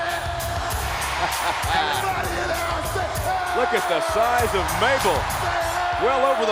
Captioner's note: laugh